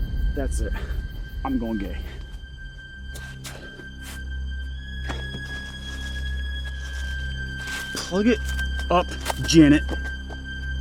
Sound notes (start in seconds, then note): 5.0 wrappers rustling